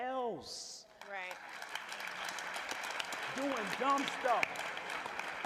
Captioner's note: applause